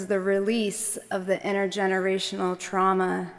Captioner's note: none